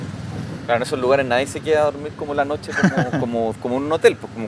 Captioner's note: laughs